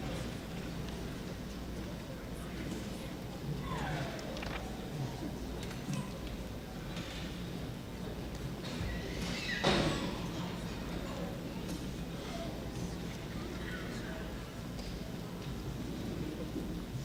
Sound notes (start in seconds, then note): none